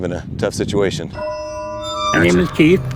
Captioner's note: eery chime